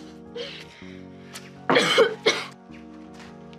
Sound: coughs

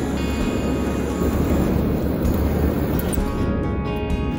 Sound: sound of the electric drill

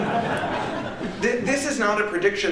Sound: laughter

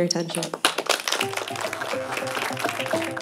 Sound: applause

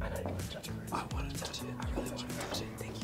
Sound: whispers

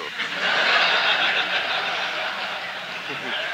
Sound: laughter

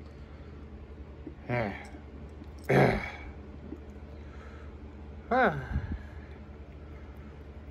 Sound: Caprice grunts

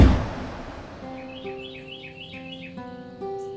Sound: birds singing; gentle music

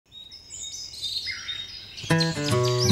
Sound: birdsong and nature sounds; acoustic guitar strums

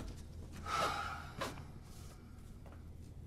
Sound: sighing

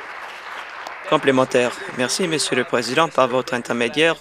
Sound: voice trailing; applause

